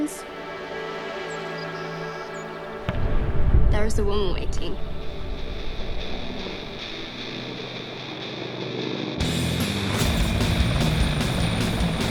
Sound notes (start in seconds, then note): 0.0 birds twitter; 9.2 rock music playing